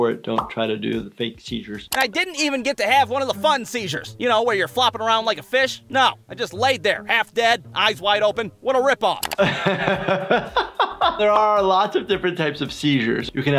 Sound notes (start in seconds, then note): 9.4 laughter